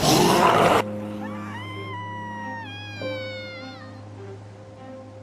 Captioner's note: screaming